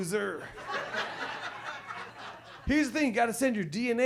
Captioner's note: audience laughs